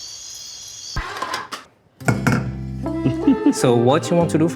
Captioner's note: crickets chirping; pans clinking